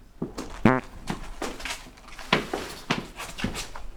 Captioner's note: farting